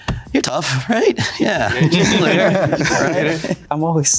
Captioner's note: group chattering